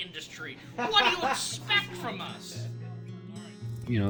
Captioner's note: laughing